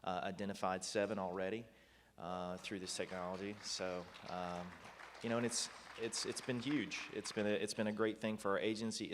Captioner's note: applause